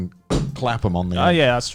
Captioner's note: hand punches table